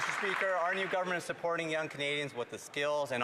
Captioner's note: some Applause